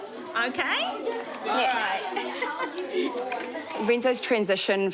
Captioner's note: chuckles